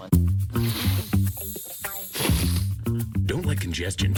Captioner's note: congested breathing